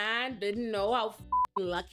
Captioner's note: beep